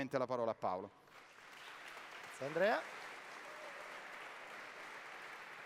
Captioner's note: applause